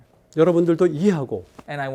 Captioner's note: speaking in Korean